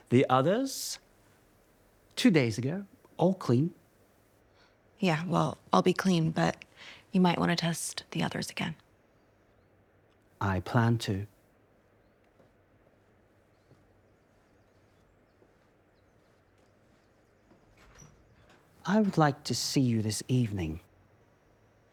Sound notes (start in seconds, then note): 17.8 door clattering